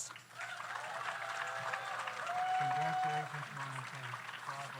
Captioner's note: audience applauds; audience cheers